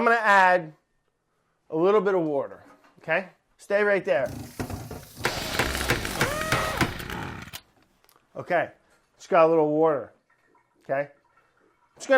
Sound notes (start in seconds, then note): 4.3 whirring